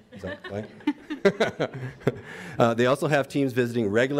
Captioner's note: audience laughs